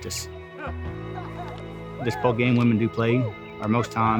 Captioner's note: players cheering